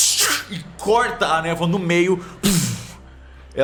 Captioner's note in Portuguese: Puuuf